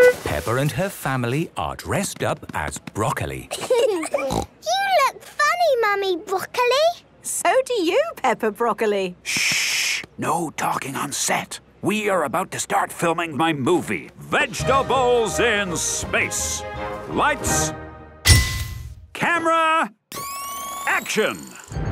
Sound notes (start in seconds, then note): 3.4 laughing, snort